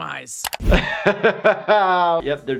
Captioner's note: laughs